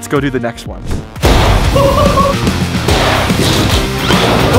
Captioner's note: laughs